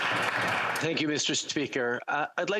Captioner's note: applause